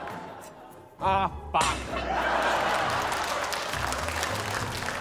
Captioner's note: laughter; laughter, applause